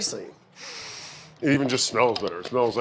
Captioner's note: sniffs